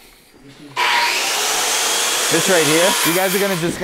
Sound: table saw buzzing

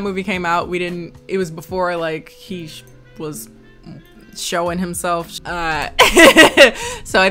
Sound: laughs

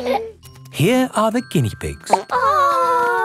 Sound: laughing; plop

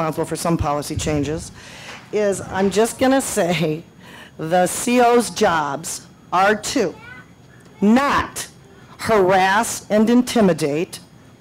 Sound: laughs

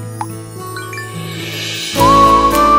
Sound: cell phone chimes

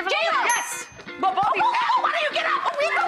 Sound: bell dings; yelling

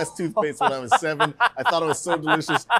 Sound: laughter

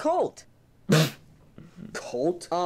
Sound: laughs

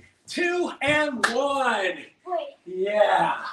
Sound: claps

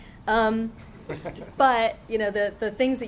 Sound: laughing

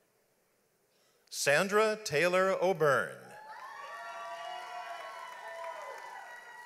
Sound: audience applauds

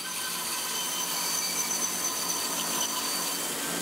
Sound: the saw screeches

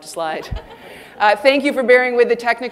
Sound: audience laughing

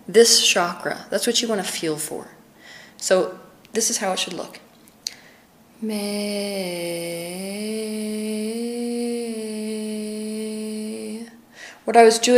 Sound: Teal demonstrates with her voice

